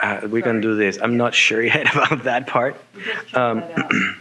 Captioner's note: laughing